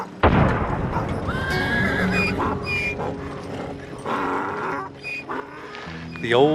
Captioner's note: explosion; burro braying